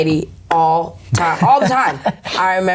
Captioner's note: laughing